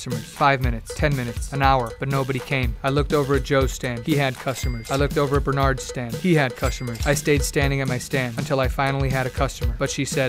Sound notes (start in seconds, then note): 4.0 cash register bell rings